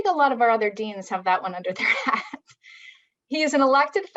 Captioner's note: chuckles